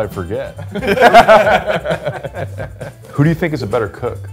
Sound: men laughing

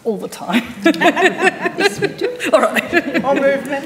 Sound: panellists laughing

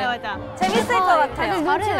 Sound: excited

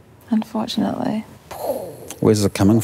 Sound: mimics explosion

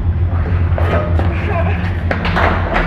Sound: moaning in a struggling way

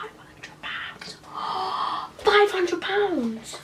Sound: gasps

